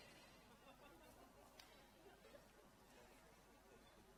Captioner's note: laughter